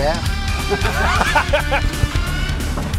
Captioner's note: laughs